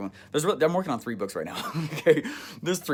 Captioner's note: laughs